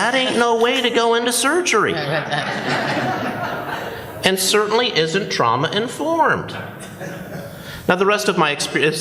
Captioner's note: laughter